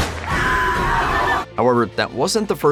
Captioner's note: screams